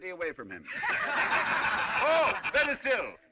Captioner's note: جمهور يضحك